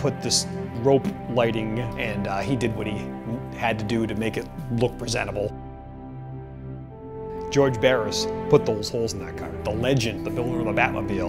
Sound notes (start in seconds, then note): none